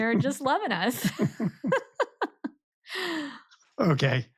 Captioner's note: both laughing